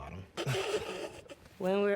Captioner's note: both laugh